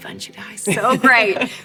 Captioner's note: laughs